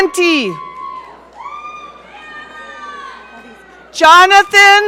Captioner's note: audience cheering